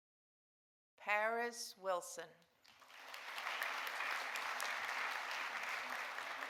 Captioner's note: audience applauding